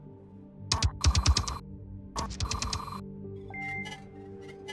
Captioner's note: text thudding